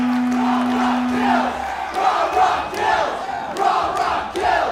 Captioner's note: crowd